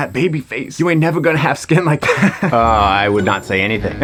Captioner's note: laughs